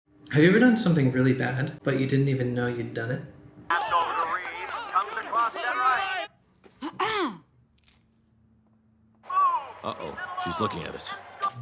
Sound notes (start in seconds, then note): 6.7 clears throat